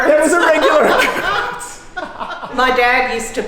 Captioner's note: laughs